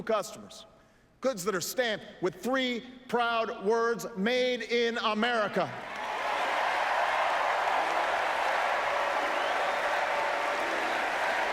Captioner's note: applause